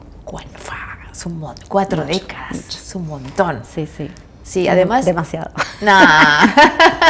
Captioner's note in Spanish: risas